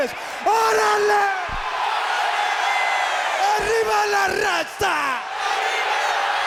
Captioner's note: everyone speaks in a foreign language